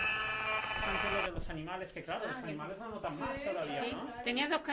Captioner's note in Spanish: Sonidos de ondas de radio frecuencias con el medidor personal